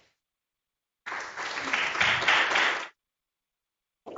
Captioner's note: applause